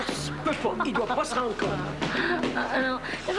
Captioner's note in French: Rire